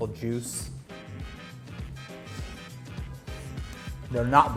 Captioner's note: jazzy music; slurping